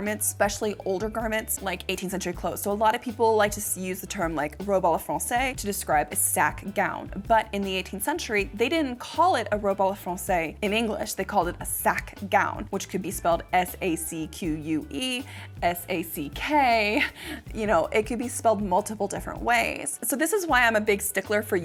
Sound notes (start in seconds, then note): 4.7 foreign language; 9.7 foreign language